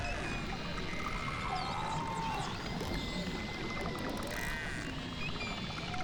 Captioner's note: animals singing and clicking